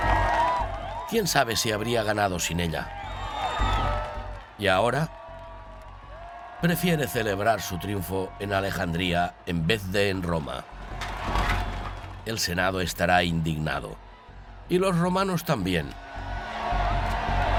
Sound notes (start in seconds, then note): 11.3 crowd cheering